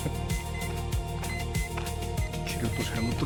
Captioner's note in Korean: 삐삑 삐삑